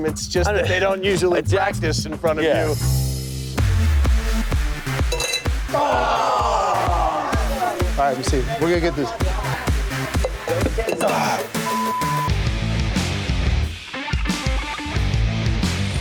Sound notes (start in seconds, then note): 3.4 upbeat music; 11.6 beep; 12.6 dramatic rock music